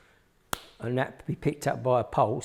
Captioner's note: hands clap